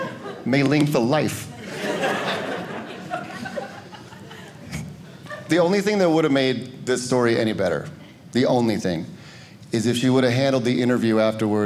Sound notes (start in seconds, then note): 1.4 audience laughing